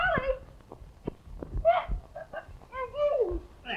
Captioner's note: Evelyn moaning